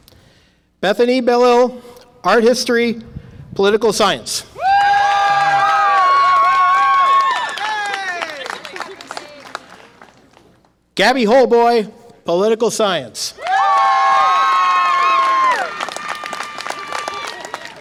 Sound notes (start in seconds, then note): 4.6 audience applause and cheer; 13.4 audience applause and cheer